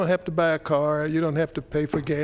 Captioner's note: gavel